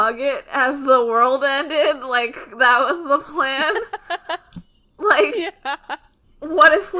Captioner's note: laughing